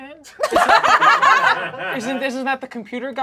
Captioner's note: group laughs